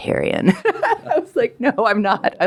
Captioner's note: laughs